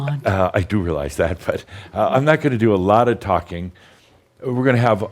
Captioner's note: chuckles